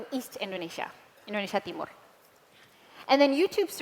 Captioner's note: non-english